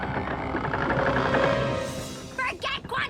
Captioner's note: twig groans